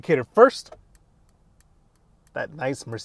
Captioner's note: turn indicator clicking